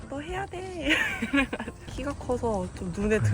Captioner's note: laughter